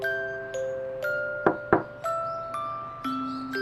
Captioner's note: knock knock…